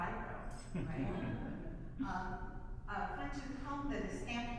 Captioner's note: audience laughs